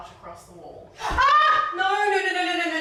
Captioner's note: screams